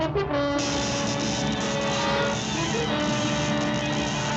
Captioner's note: light dramatic music; electricity zaps